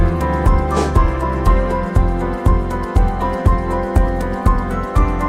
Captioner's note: air whooshing